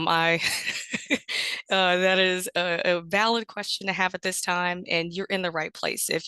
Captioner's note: laughs